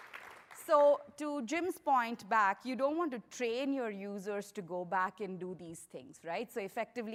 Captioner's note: applause